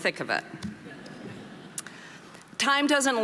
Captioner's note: audience laughing